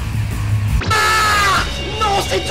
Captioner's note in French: cri